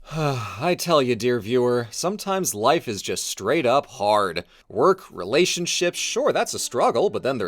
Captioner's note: sigh